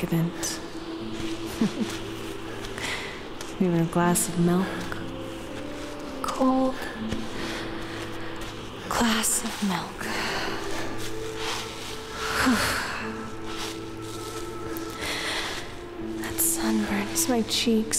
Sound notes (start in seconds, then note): 1.5 chuckle; 11.0 sigh